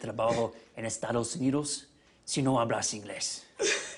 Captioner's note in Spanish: Con acento